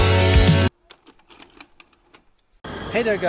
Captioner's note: music stops; videotape ejects from recorder